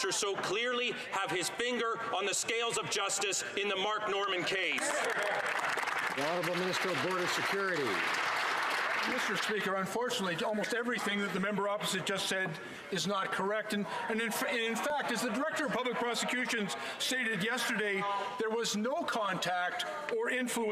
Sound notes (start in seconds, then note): 8.0 some Applause